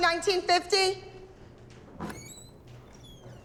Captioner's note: door squeaks open